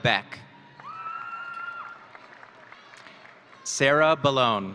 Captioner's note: audience cheering